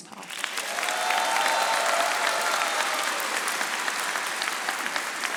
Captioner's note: audience applauding